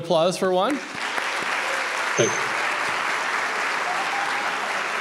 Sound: audience applauds

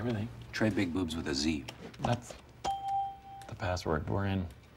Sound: ding

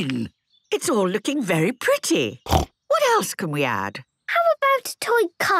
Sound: snorting

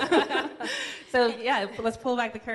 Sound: laughs

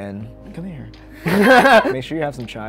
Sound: laughing

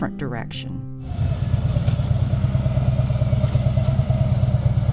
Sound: engine roaring

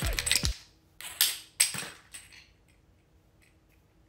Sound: bean clacking

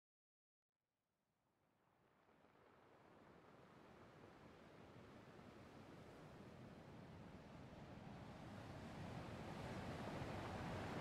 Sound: the sound of waves crashing against a shore fades in. The wind howls

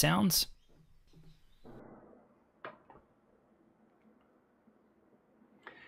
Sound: air conditioner humming

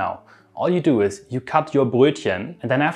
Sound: speaking German word

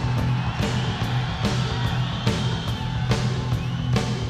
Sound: audience cheers

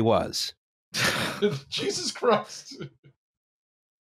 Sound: laughing; scoffs

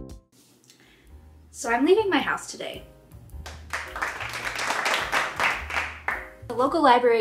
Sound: applause

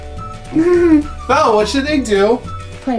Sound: laughs

